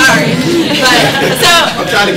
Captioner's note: audience laughing